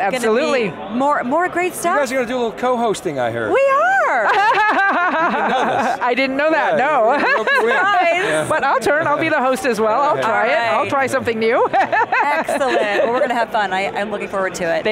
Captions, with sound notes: >> It's going to be more great stuff. >> You guys are going to do a little co-hosting, I hear. >> We are! (laughing) >> You didn't know this? >> I didn't know that, no. (laughing) >> Yeah, we rope you in. >> Surprise. >> But I'll turn, I'll be the host as well. I'll try it, I'll try something new. (laughing) >> Excellent. Well we're going to have fun. I'm looking forward to it.